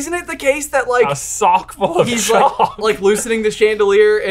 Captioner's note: laughs